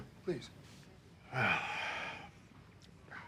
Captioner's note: sighs